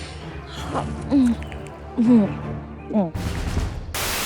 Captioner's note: inhales; IVY eating